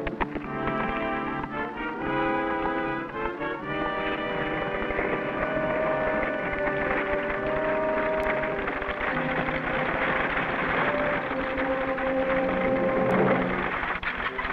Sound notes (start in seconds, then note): 5.9 carriage wheels clattering